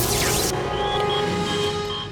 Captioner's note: beeping